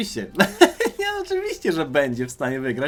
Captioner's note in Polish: śmiech